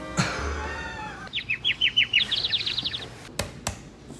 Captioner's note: chirping